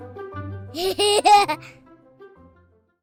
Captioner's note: laughter